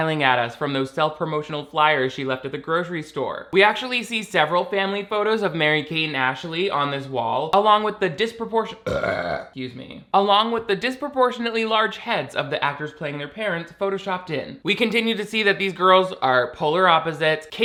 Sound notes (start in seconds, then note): 8.8 burps